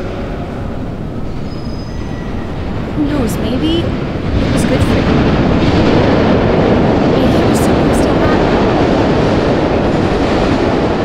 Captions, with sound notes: Who knows, maybe it was good for you. (LOUD APPROACHING TRAIN) Maybe it was supposed to happen. (TRAIN DROWNS OUT SOUND)